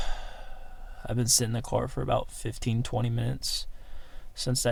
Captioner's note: sighs